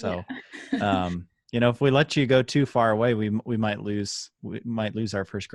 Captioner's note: laughter